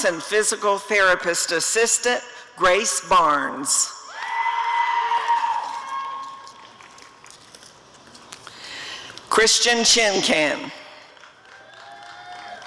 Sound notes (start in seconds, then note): 4.1 audience cheering; 11.0 applause and cheering